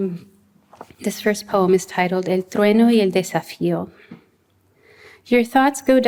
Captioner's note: non-english speech